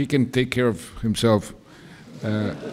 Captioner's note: laughter